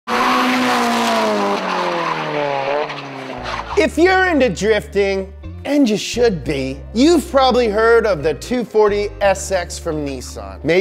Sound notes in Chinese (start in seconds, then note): 2.0 轮胎尖叫